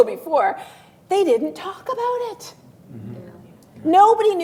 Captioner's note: laughs